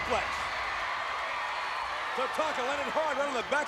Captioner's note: crowd cheering